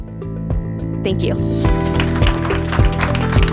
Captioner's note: clapping